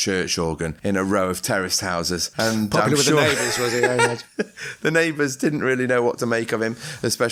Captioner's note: laughter